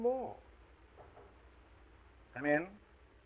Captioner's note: knocking on door